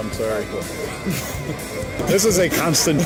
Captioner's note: group laughs